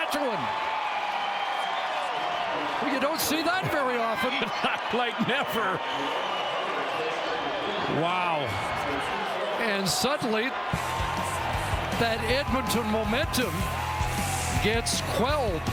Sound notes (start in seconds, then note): 5.4 cheering